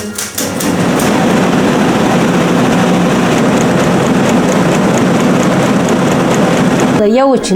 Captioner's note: typewriting; printing